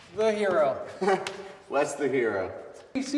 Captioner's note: Wes laughs